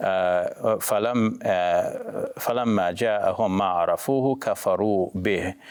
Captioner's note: speaking Arabic